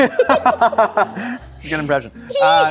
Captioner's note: laughing